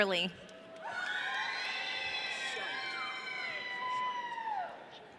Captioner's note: audience cheering